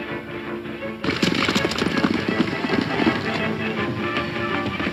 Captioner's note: horses galloping